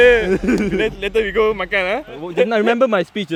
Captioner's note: laughs